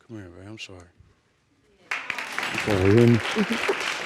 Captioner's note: applauding